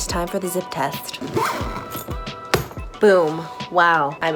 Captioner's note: zipping up suitcase